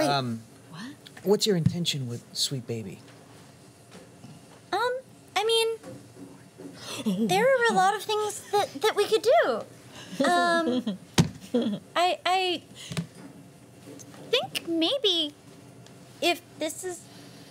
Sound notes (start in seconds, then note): 11.5 giggling